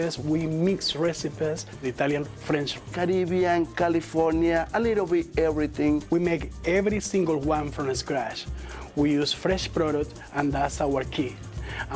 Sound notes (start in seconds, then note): none